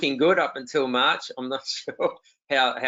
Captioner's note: laughs